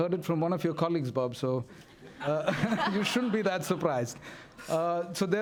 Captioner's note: laughter